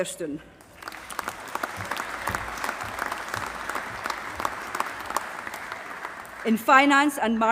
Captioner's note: applause